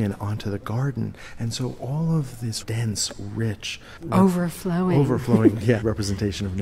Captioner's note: chuckles